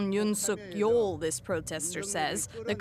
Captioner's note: speaking alternate language